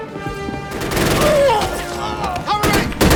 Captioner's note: grunts and screams